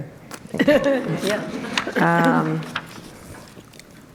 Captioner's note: group laughter